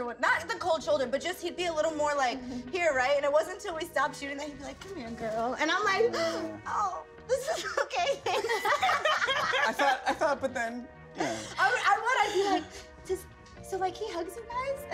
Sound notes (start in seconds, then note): 7.6 cast members laugh